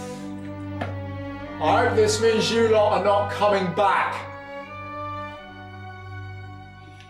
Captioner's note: calling upstairs